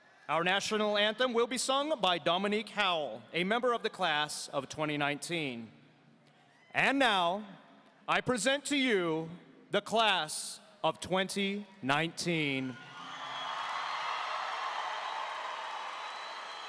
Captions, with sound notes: Our national anthem will be sung by Dominique Howell, a member of the Class of 2019. And now, I present to you the Class of 2019. (audience cheering)